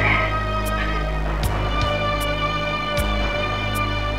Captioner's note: sobbing